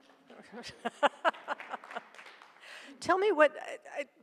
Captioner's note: laughs